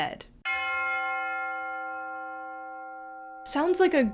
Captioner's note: bell chimes